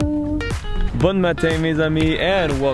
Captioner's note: speaking foreign language